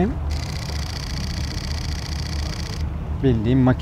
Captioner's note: sequential shooting sound of the camera